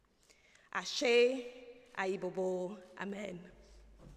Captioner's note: non-english speech